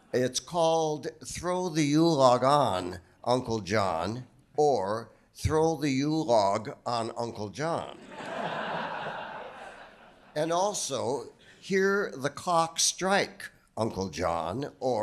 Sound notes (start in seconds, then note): 8.0 audience laughing